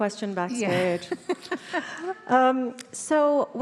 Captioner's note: Emma laughs